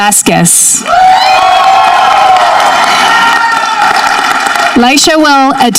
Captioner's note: audience cheering